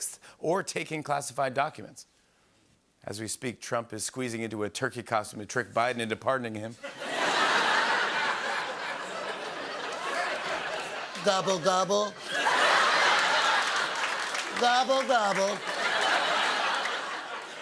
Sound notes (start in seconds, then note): 11.0 As Trump